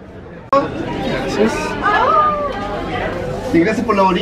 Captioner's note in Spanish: sonido ambiente y conversaciones